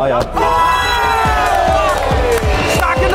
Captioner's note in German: Jubel, Applaus